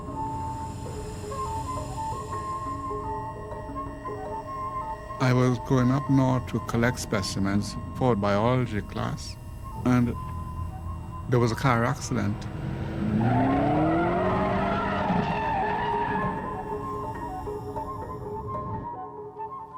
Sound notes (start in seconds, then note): 12.4 car engine revving, tires squealing; 16.3 intriguing music continues